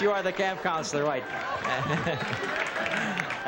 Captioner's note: laughter